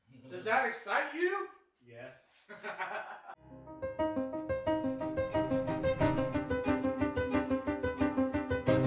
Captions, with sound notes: Does that excite you? Yes. (laughing) (upbeat music)